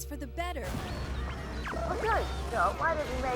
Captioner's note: crash